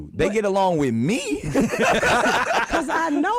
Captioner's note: both laughing